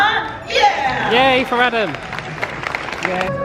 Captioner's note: applause